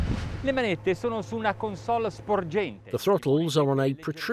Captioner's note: speaking foreign language